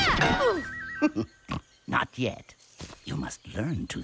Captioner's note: laughs and snorts